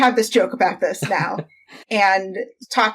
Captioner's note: laughs